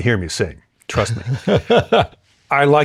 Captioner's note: laughter